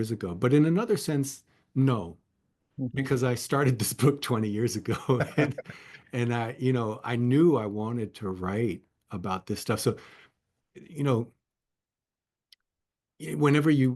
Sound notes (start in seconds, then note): 4.9 laugh